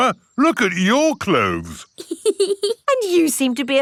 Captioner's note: laughs